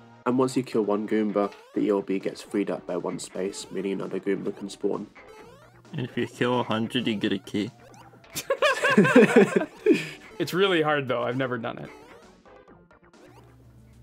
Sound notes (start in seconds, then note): 8.3 laughter